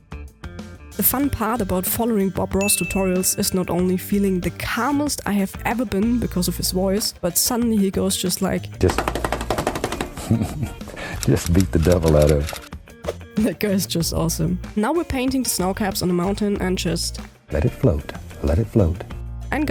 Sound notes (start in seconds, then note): 10.1 laughing